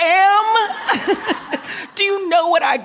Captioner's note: laughing